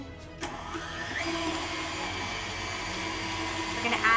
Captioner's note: blender whirling